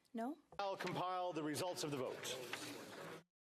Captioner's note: speaking French